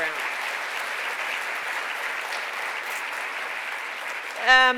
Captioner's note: applause